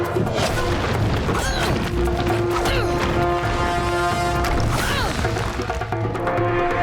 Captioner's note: grunting